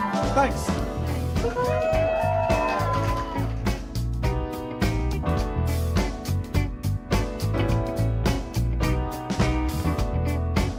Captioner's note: audience cheering